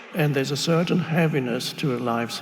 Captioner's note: none